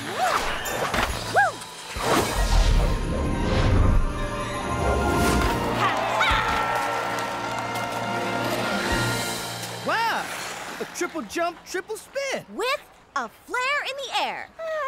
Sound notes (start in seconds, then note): 1.3 yelps, whoops; 2.0 whooshes; 5.3 crowd cheers